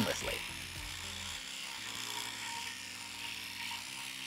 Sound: sander whirs

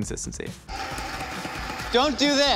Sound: blinder whirring

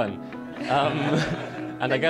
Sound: everybody laughing

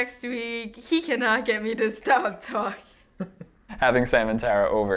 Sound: laughing

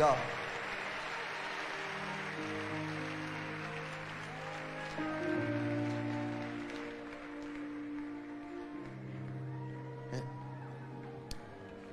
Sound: audience cheering and applauding

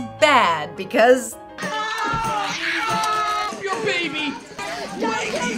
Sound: screaming and crying from all characters involved

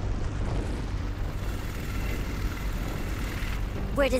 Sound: helicopter whirring

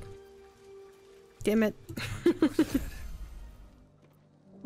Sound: laughs

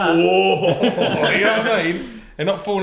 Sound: all laugh

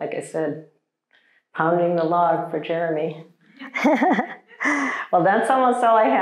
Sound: chuckles

